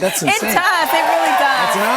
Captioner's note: cheers and applause